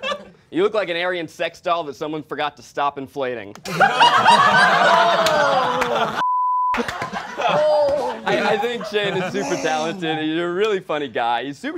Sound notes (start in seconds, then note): 3.6 all laughing